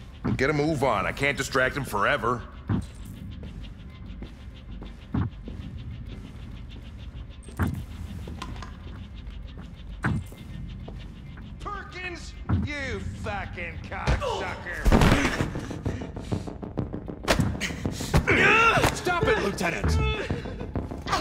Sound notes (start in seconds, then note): 14.1 groan; 14.8 blow lands; 17.9 whimpering